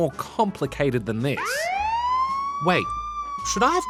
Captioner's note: siren blares